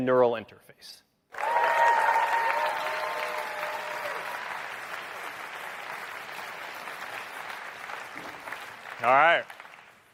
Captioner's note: applause